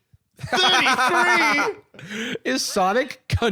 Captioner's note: laughing